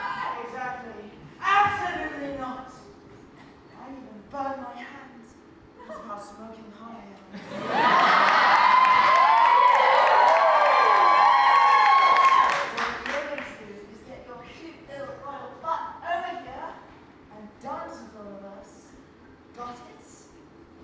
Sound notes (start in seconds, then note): 9.9 audience laughs and cheers